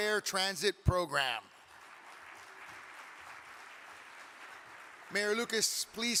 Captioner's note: audience clapping